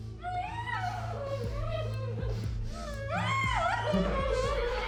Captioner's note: victims groaning